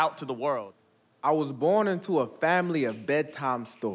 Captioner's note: audience snapping fingers